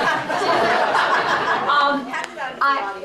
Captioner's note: laughter